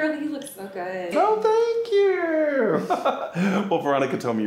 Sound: chuckles

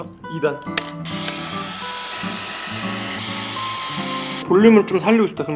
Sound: hair dryer running

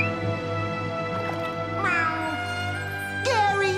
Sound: meowing

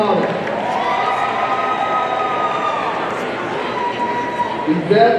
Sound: audience cheering

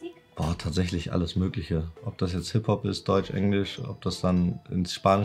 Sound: speaking foreign language

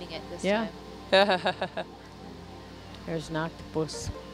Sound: laughs

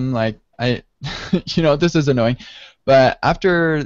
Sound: laughs

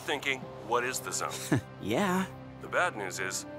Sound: chuckling

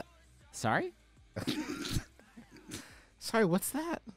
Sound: laughing

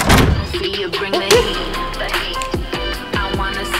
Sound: door slams

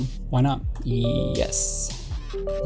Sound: computer chimes

